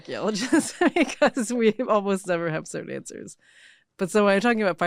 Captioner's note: laughs